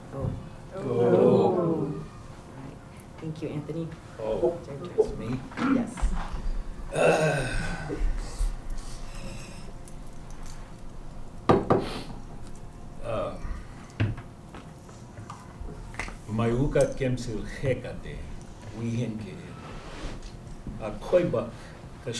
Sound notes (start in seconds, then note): 1.1 non-english; 6.9 sighs deeply; 11.2 non-english speech